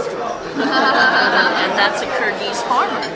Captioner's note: all laughing